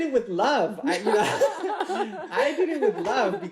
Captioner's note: laughs